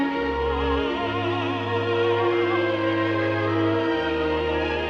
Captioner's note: vocalizing Continues